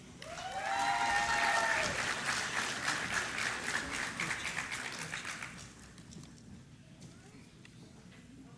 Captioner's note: applause